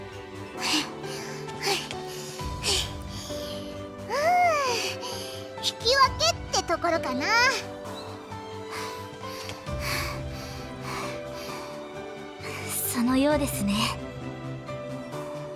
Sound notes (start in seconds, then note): 0.6 huff; 8.3 huff